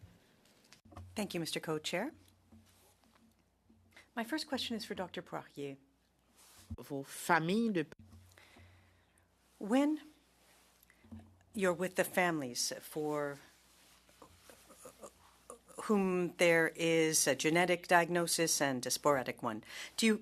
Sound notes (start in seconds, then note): 4.7 speaking French